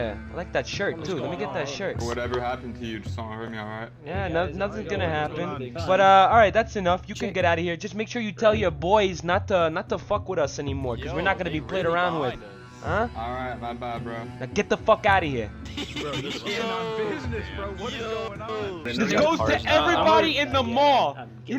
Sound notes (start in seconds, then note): 18.9 laughter